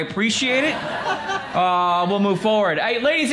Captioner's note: crowd laughs